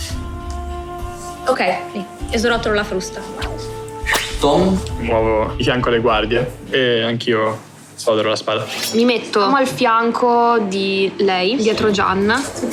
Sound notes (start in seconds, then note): 3.3 whip crack; 8.6 swords clashing